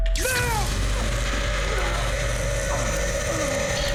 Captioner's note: Daniel grunting